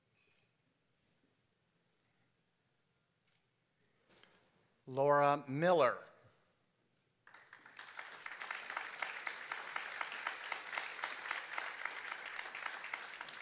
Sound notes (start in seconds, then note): 7.2 applause